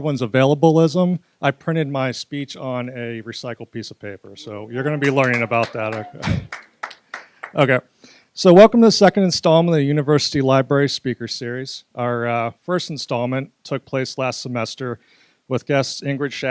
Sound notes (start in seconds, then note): 5.0 applause; 5.6 laugh